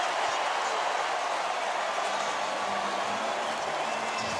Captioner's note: cheering